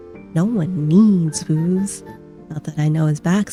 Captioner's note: none